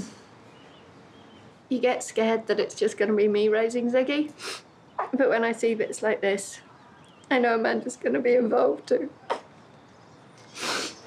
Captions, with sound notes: You get scared that it's just gonna be me raising Ziggy, (SNIFFLES) but when I see bits like this, I know Amanda's gonna be involved too. (CRIES)